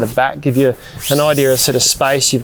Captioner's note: fabric hissing